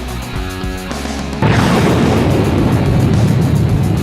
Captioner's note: explosion